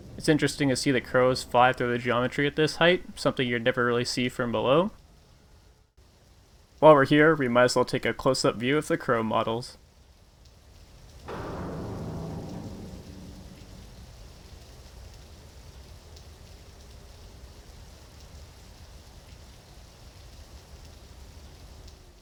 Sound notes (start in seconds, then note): 11.3 audible Rain